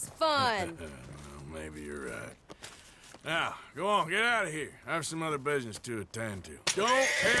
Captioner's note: laughs